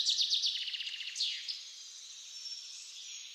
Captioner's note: birds singing again